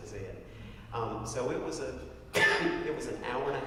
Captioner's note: cough